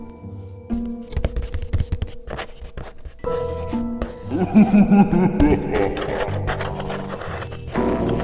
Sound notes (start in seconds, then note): 1.0 scrabbling; 4.3 menacing laughter